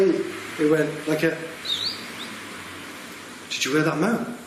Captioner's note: whistling softly